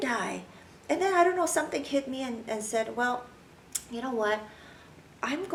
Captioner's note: clicks tongue